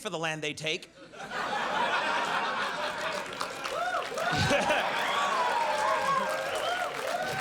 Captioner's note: audience laughs